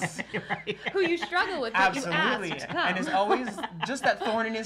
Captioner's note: laughs